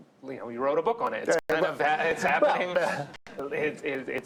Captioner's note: laughs